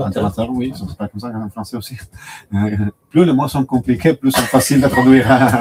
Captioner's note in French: rires